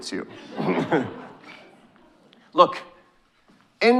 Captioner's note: audience chuckling